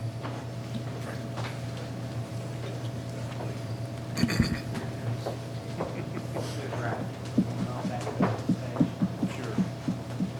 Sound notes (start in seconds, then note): 6.3 faintly speaking